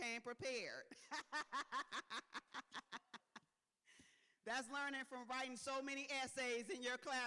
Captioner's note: laughs